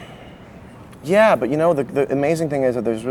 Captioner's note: none